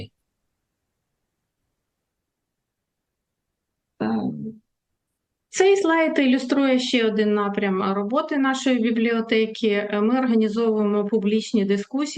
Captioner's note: foreign language